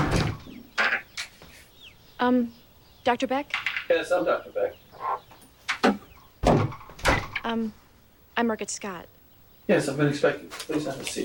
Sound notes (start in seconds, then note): 0.0 door clicks; 6.4 door thuds